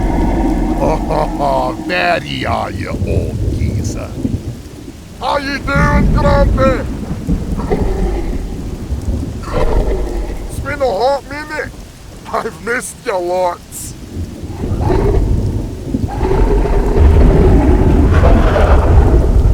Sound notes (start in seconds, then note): 0.0 very deep bellowing roar; 7.5 deep bellow sound; 14.4 short deep bellowing roar; 16.0 very long and deep roar